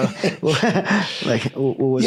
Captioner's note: laughs